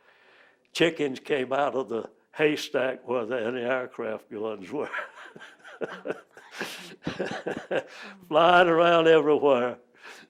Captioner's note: laughs